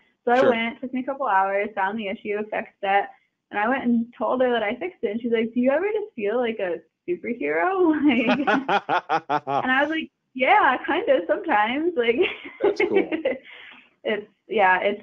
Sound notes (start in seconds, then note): 8.1 both laughing; 11.7 laughing